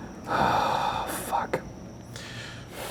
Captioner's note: sighing